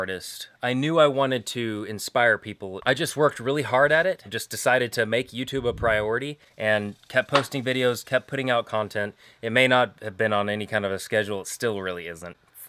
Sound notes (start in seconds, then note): none